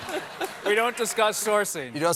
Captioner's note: laughter